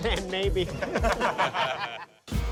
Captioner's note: laughter